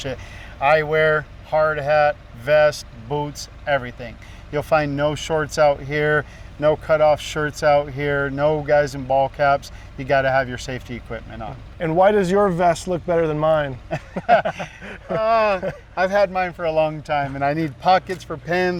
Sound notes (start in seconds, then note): 13.8 both laughing